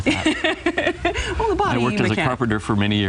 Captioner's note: laughing